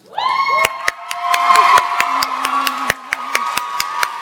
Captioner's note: audience applauds